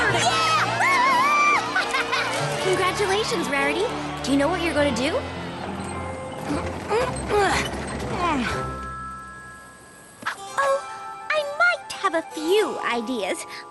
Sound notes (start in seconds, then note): 0.0 cheers; 6.4 grunts